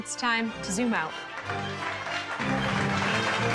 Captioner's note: clapping; triumphant music